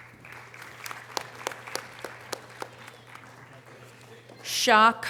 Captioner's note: audience applause